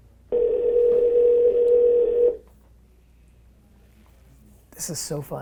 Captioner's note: phone ringing